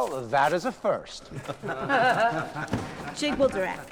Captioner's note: laughing